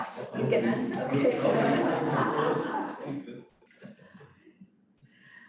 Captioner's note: laughter